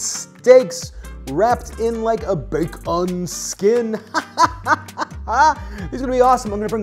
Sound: laughs

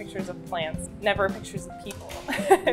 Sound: laughs

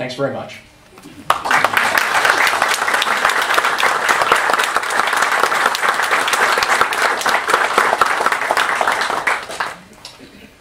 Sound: applause

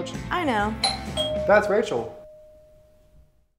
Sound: door bell sound

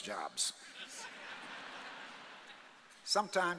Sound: audience laughing

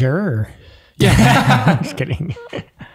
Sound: men laughing

